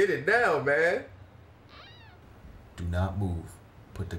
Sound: squeek

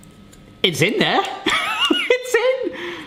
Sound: laughs

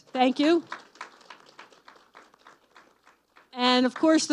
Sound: applause

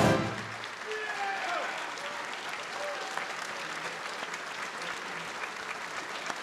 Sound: applause

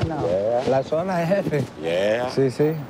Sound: speaking spanish

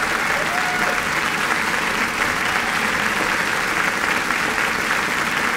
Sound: applause continues

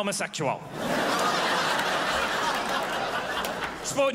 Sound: crowd laughs

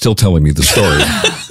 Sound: laughs

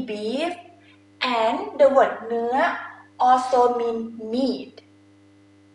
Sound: talking in foreign language

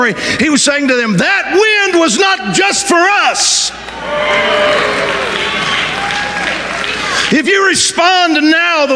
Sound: audience cheering

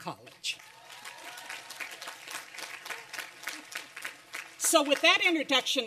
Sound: applause and cheering

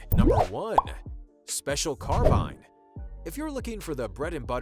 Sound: whooshing

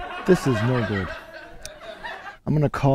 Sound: laughter

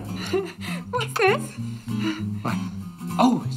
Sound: chuckles

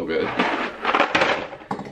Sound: pasta shaking in box

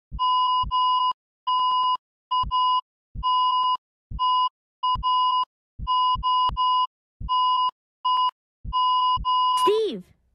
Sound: EKG beeping sound

